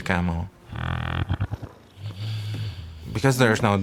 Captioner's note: capybara snoring